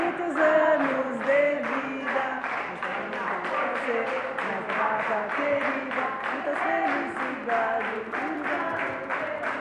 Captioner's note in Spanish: Aplausos